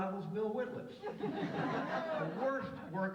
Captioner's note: audience laughs